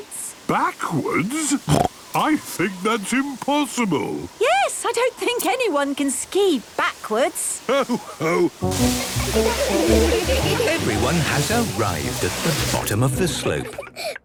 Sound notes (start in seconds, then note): 1.2 snorting; 8.8 laughter